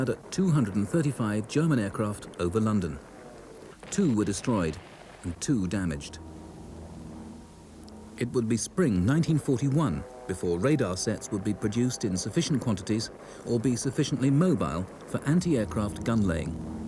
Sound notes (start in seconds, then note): 6.3 planes rumble